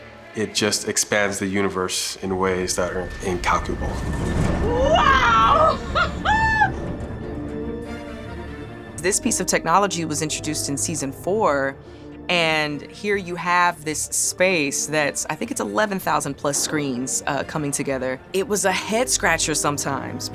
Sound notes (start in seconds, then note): 4.6 cheers